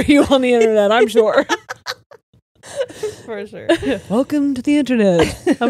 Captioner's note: all laughing